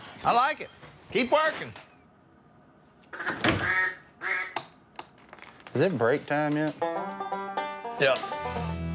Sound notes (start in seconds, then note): 3.1 duck call